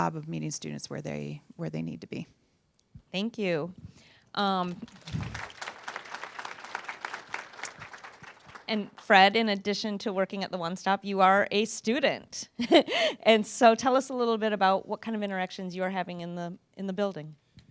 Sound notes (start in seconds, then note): 4.7 applause